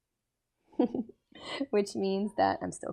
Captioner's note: lecturer giggles